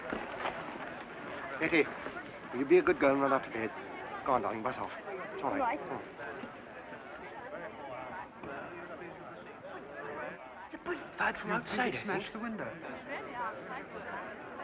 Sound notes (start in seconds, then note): 0.0 crowd murmuring; 6.7 commotion